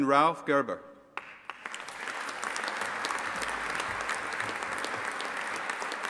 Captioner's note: audience applauding